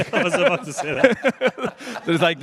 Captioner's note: laughter